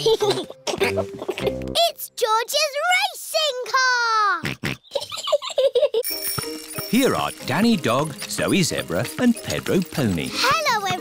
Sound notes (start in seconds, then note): 0.0 chuckles; 4.5 snorts; 4.8 chuckles